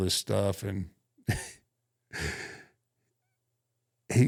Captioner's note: chuckles